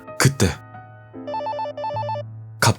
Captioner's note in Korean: 전화 벨소리